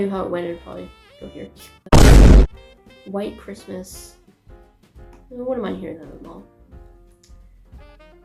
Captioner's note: boom